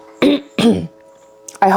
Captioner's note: clears throat